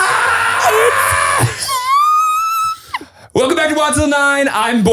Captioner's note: screaming